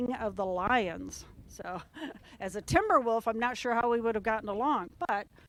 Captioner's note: laugh